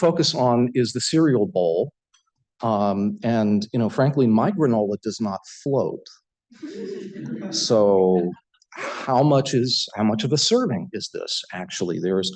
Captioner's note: laughter